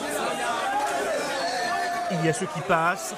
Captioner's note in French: cris de joie